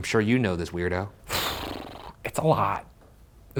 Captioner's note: exhales